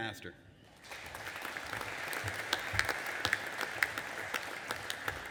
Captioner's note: audience applauding